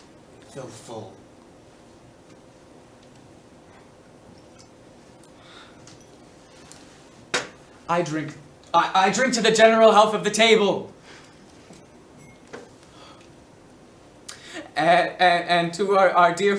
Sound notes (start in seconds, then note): none